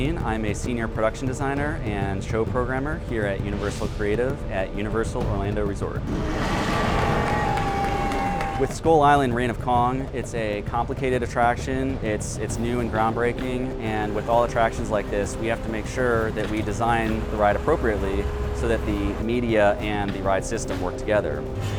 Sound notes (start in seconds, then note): 6.0 gorilla roaring; 6.3 guests cheering